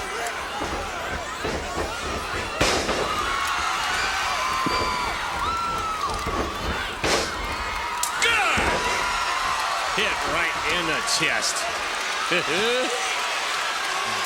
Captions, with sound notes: Hit right in the chest. (laughs)